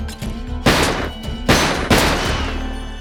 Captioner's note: gunfire